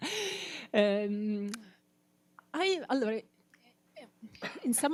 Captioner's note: chuckles; stammers